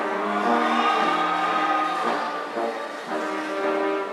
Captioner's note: audience cheering